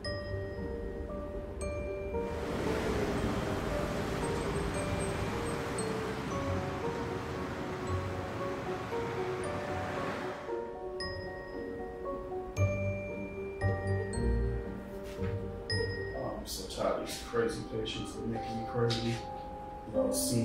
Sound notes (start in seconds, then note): 2.5 traffic humming; 10.2 mysterious music